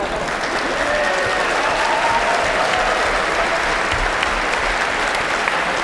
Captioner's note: cheers and applause